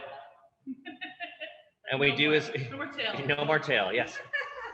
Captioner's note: both Chuckling